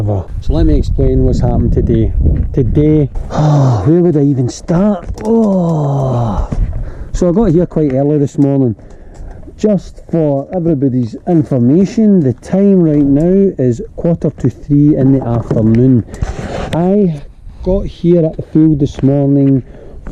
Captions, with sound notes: let me explain whats happened today, today (sigh) where would I even start so i got here quite early this morning just for everybodys information the time right now is quarter to 3 in the afternoon I got here at the field this morning